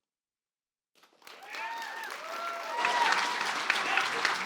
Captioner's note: cheers, applause